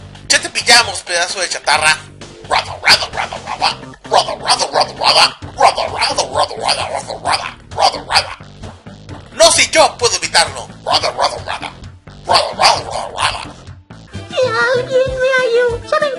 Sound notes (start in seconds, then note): 3.5 In Schnitzel's language